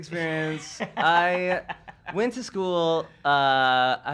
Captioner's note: laughs